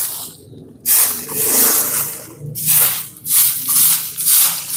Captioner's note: motorcycle Sound